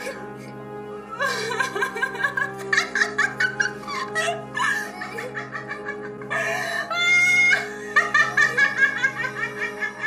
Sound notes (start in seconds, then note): 0.0 mock sobs; 1.1 Ethel cries; 1.1 witch laughs